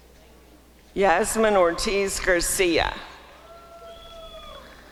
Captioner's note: applause and cheering